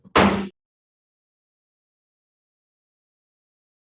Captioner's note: banging gavel